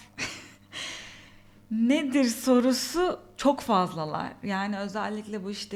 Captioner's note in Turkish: kahkaha